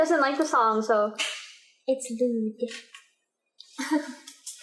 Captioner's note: pshh